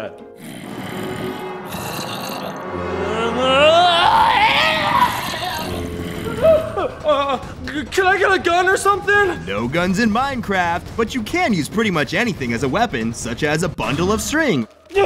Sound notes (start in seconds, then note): 0.4 growling; 3.6 screaming